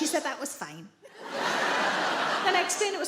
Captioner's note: audience laughing